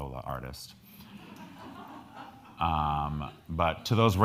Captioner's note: crowd laughing